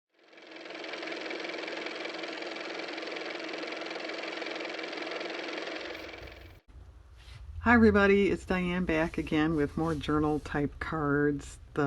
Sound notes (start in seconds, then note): 0.2 car motor